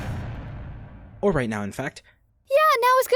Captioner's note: yelp of surprise